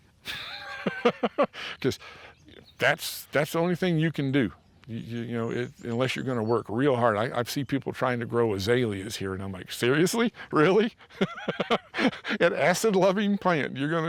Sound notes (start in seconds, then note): 0.2 laughs; 10.1 chuckles